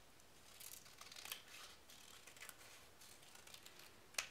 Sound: scissors snipping

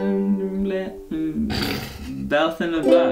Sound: laughs

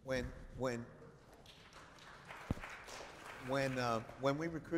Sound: applause

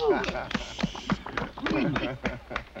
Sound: applause

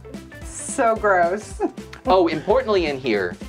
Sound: laughs

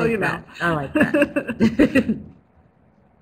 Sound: they both laugh

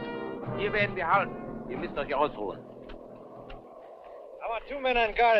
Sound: speaking in a foreign language

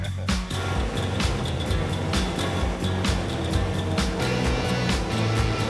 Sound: motor whirring

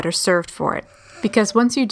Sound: le gasp

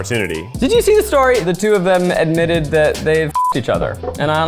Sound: beeps

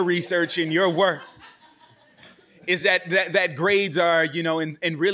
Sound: laughing in background continues

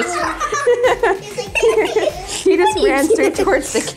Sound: family laughing

